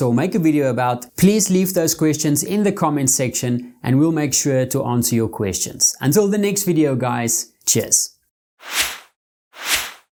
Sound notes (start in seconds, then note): 9.6 logo whooshes